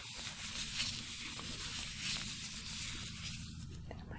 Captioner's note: glove sounds